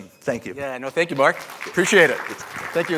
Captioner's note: applause